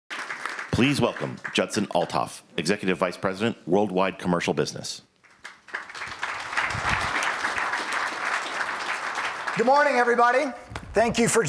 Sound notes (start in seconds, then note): 0.0 applause